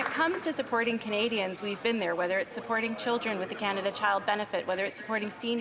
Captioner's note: some Applause